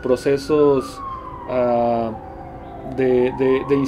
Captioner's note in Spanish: Sonido de sirena de patrulla y silbato de tren